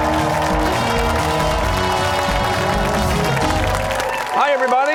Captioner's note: cheers and applause